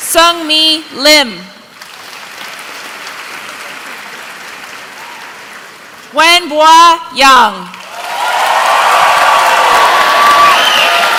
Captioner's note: applause